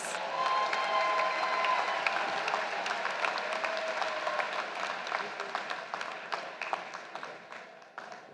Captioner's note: applause